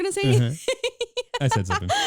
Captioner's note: laughing